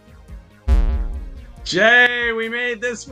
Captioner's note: beep